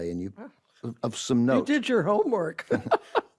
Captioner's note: laughs; ben chuckles